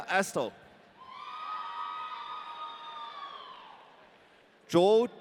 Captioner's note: audience cheering